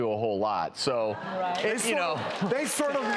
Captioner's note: applause